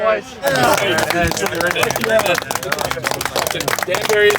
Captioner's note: clapping and chatter